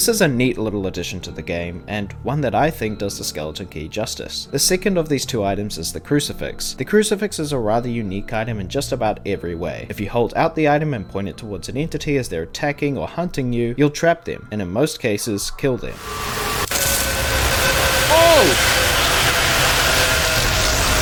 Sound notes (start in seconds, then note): 18.0 Ambush Screams